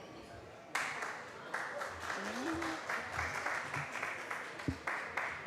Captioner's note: applause